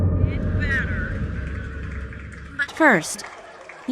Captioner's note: audience laughter, applause